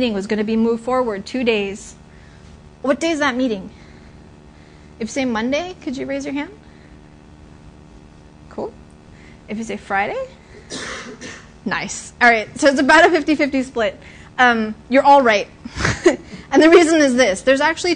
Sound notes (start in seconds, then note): 15.7 laughter